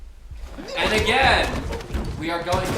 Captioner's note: grunting and thudding